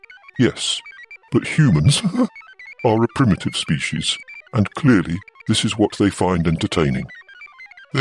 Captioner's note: laughs